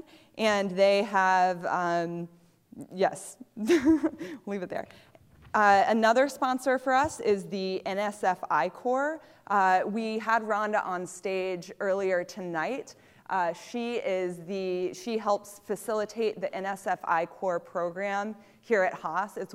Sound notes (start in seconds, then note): 3.6 laughter